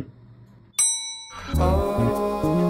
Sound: bell dinging

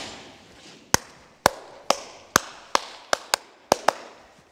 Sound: clapping

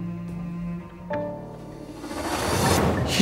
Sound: transition sound

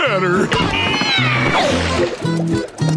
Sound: growling

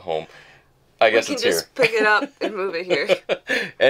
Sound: laughing

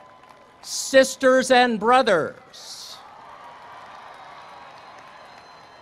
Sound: cheers and applause; cheers and applause

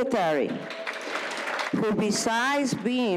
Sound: audience applauds

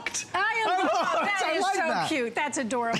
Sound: laughter

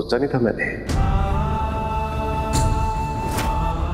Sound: emotional vocalising

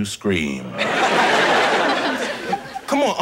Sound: audience laughing

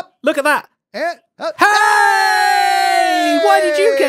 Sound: BOTH cheer

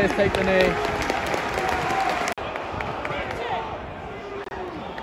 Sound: orient fans applaud

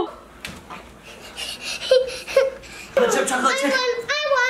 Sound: laughs

